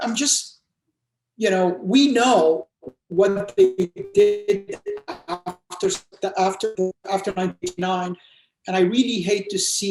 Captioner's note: distortion